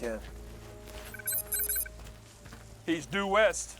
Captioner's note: scanner beeps